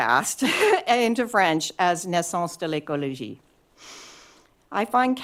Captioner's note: french